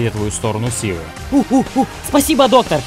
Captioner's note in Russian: Обезьяньи звуки